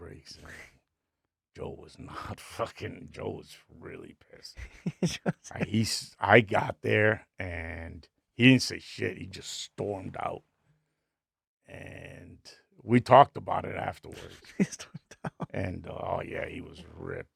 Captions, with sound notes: Joe was not fucking, Joe was really pissed. (laughing) I got there and he didn't say shit, he just stormed out. And we talked about it afterwards. He just walked out. And oh yeah, he was ripped.